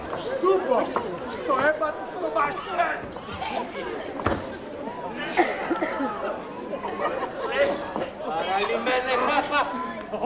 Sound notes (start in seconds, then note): 5.1 βήχας